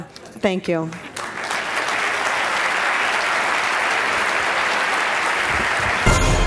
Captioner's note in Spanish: Aplauso